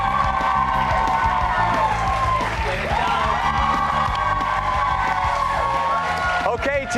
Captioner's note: cheers and applause